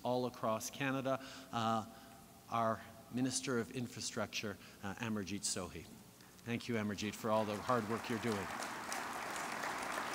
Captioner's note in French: Applaudissements